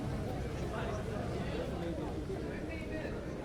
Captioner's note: none